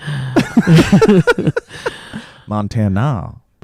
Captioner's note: laughs